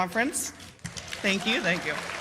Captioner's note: cheers and applause